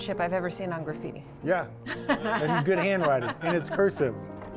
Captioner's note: laughing